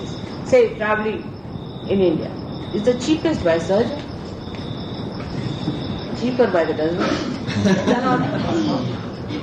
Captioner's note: laughter